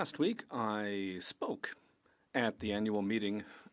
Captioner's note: speaking French